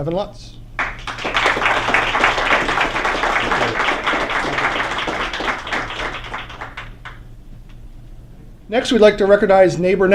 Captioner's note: applause